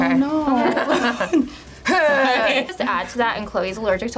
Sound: forced laugh

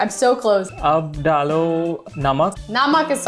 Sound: speaking in Hindi

